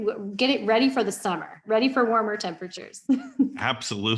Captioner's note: laughs